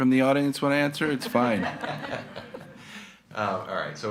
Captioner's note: attendees laughing